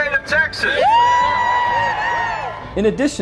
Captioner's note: people cheering